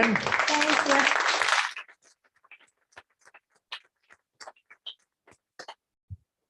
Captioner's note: applause